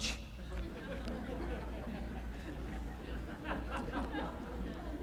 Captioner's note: audience chuckling